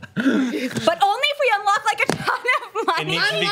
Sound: laughs

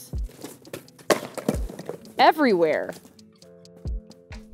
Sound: packages clattering

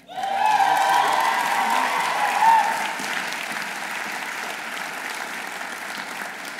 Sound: audience cheering; audience applauding

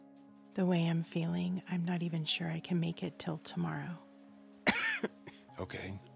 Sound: coughs

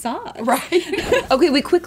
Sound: laughs

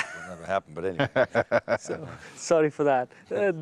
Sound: laughing

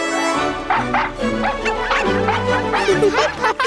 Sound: barking

